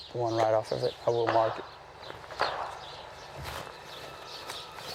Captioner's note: gunfire